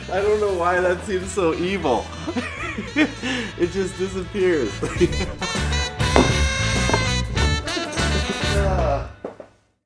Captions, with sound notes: I don't know why that seems so evil. (laughs) It just disappears. (laughs) (sighs)